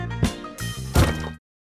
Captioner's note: thud